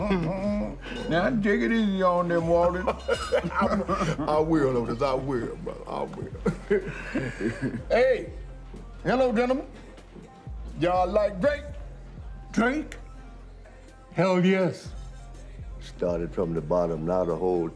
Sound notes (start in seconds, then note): 0.2 both chuckling; 2.6 both laughing; 6.3 both chuckling